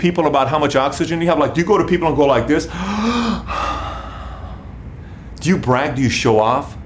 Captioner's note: deep breath